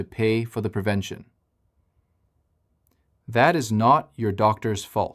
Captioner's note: pause